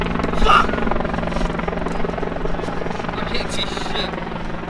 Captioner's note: helicopter whirring